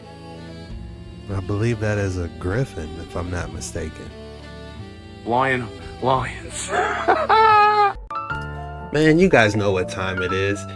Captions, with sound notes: I believe that is a Griffin if I'm not mistaken Lion lions (laughs) Man you guys know what time it is